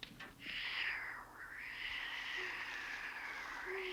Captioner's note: Sleestak hiss